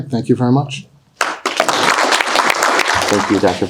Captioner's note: audience applauding